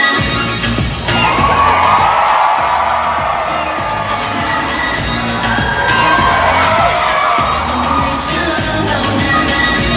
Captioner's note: cheers